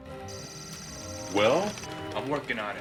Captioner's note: beeping